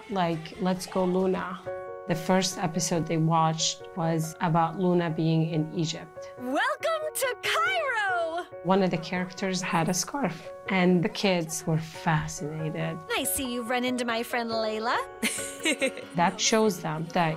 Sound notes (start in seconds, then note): 13.6 laughing